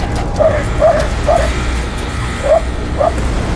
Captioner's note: dog barking